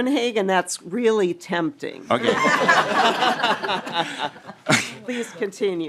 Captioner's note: laughing